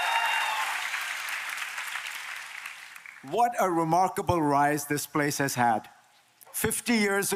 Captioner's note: applause